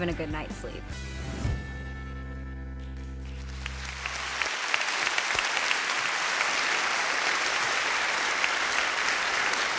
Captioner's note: applause